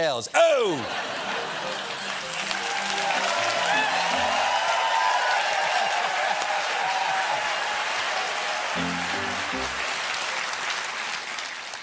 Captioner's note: cheers and applause